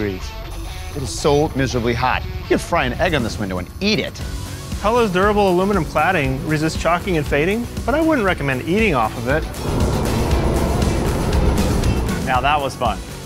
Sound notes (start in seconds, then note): 9.3 airplane noises